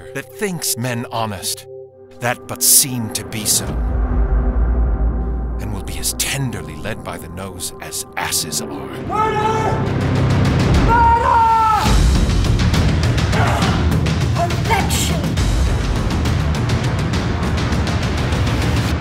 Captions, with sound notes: That thinks men honest that but seem to be so, And will as tenderly be led by th'nose as asses are. (yelling) Murder! Murder! (grunt) - Perfection. (dramatic music)